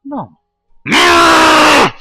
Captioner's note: rage